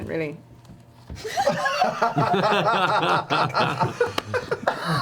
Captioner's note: all laugh